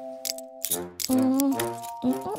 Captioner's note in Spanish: none